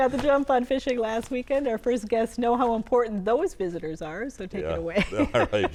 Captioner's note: laughter